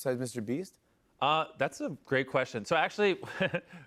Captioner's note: chuckles